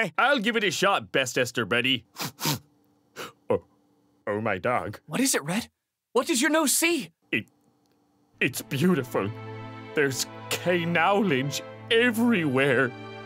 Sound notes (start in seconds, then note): 2.1 sniff sniff